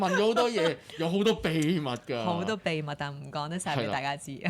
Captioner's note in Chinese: 眾人笑